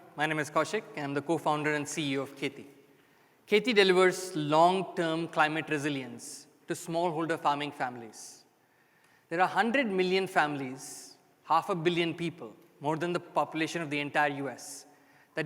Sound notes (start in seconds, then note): none